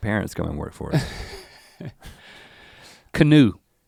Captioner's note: Link chuckles